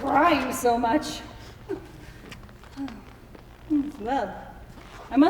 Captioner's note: sighs